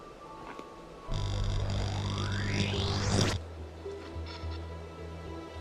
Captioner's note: electronic whirring